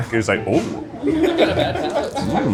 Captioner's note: crew laughing